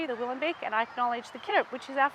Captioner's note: speaking in Woi Wurrung traditional language